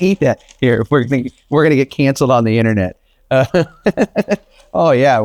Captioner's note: laughs